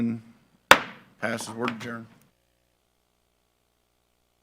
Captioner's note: gavel clacks